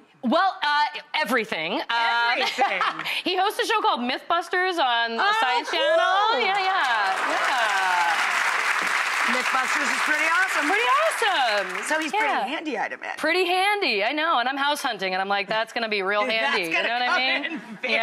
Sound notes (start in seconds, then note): 8.2 applause